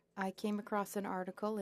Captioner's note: speaking French